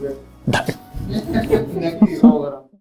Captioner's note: laughing sound